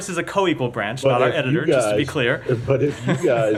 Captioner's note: laughter